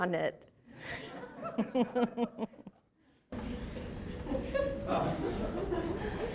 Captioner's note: laughter